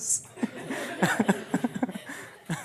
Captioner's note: laughter